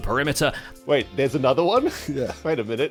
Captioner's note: laugh